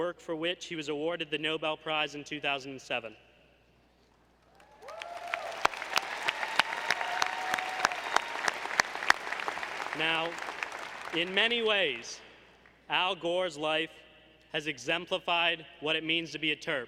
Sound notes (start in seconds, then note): 4.5 applause